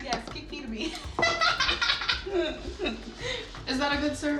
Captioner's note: laughing